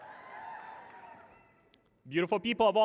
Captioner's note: cheers and applause